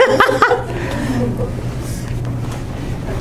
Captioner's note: laughing